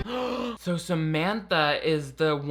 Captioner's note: gasping